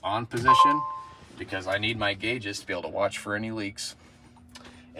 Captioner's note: beeping